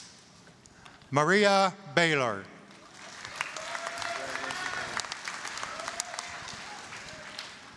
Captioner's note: applause, cheering